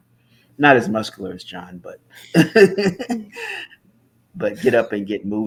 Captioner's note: laughs